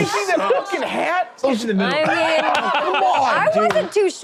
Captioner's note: laughing